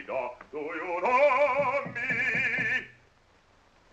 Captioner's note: knocking at door